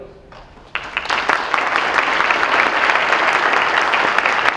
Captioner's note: audience applauds